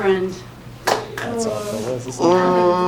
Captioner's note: claps